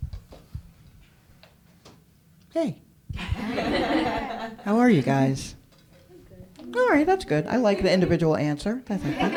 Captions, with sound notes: - Hey. (laughter) How are you, guys? All right, that's good, I like the individual answer.